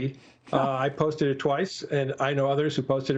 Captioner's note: laughter